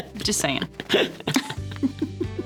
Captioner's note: laughing